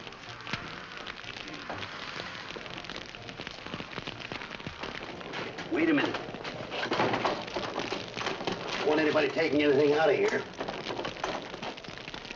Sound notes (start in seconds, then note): 0.1 fire crackling; 7.7 door locking; 10.8 fire crackling